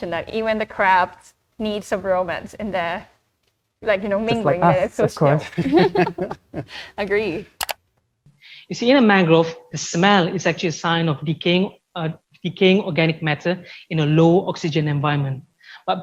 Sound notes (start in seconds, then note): 5.4 giggles